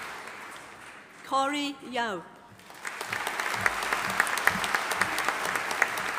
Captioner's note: audience applauding